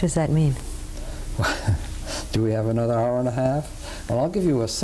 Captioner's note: laughs